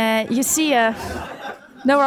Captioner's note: laughter